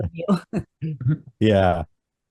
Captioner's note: laughs